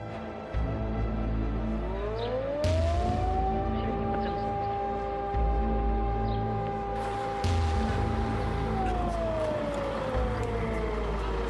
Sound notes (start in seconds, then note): 2.6 siren blares; 6.9 tank rumbles